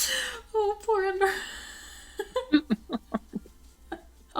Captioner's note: giggle